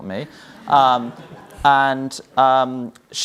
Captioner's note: audience laughs